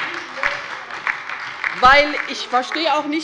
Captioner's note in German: Beifall bei der LINKEN und der SPD